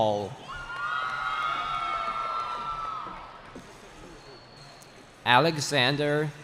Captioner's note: cheering